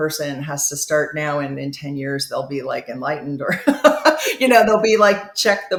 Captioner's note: chuckles